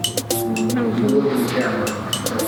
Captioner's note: mumbles